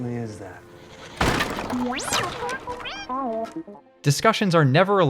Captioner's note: frantic robot noises; clatter of wooden threshold